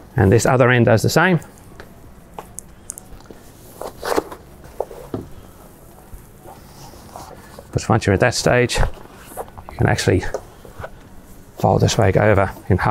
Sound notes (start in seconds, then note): 3.7 stretcher scuffling